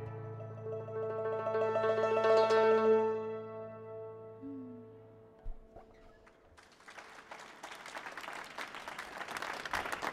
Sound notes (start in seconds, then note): 6.2 applause